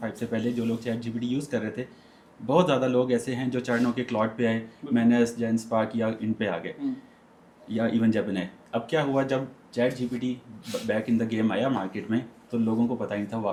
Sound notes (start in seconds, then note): 6.7 clearing throat; 10.6 nasal noise